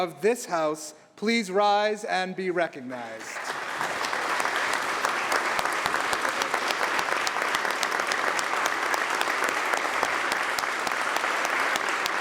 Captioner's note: applause